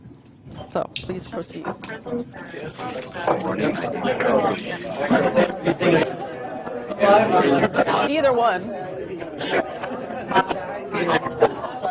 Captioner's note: audience chatter